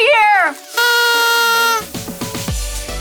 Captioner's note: blows on horn; upbeat music